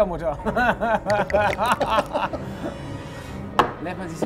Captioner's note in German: Lachen